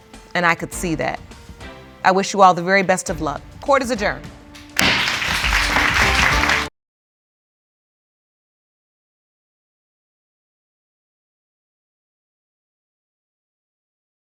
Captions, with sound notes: And I could see that. I wish you all the very best of luck. Court is adjourned. (GAVEL STRIKES) (AUDIENCE APPLAUDING)